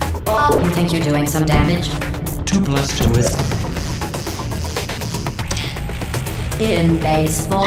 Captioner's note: static